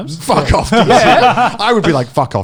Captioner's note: laughing